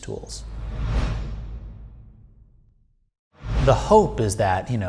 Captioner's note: air whooshing